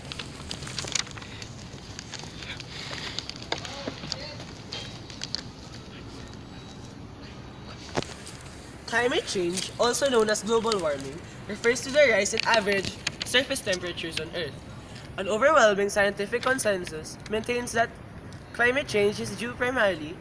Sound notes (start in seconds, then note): 0.0 static Crackling